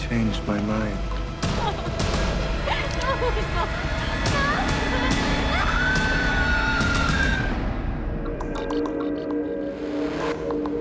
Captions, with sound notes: I changed my mind. No! Oh, no! No! [Blood curdling scream]